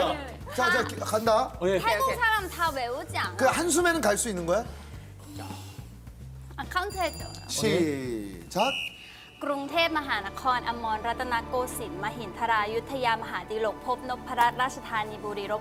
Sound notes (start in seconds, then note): 4.8 inhale